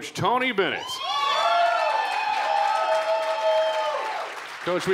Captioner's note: cheering